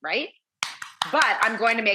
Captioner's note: claps hands